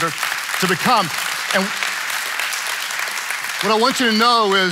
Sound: congregation clapping

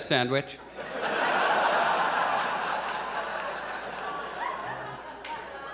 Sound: audience laughs

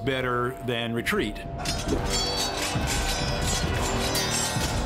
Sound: swords clanging

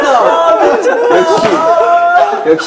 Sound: laughing

